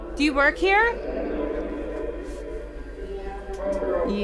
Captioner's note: distorted speaking